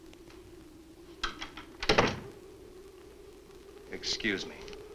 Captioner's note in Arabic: يغلق الباب; يُفتح الباب